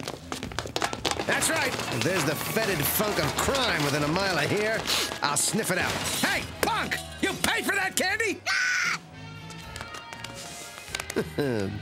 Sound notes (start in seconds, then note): 8.2 yells; 11.0 chuckles